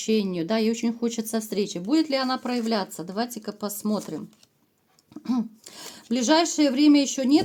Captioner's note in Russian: откашливается